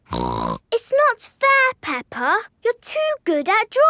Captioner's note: snorts